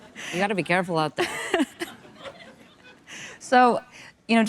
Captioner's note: audience laughing